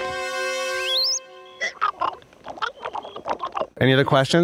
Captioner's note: chittering